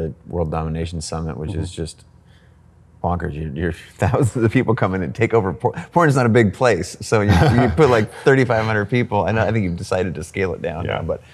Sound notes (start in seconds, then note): 7.2 laughs